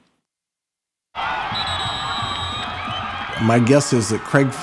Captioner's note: crowd cheering; whistle blowing